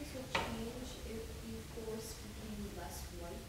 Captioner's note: woman's Voice